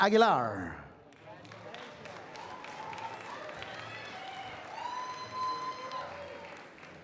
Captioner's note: applause